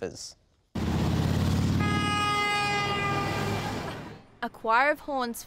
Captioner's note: cars driving and honking horns